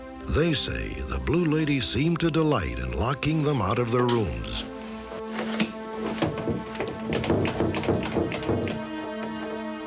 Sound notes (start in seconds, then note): 5.3 clattering